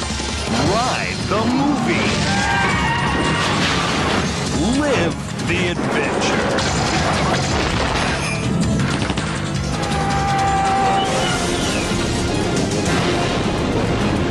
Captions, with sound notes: Ride the movies. [people screaming] Live the adventure. [dramatic music]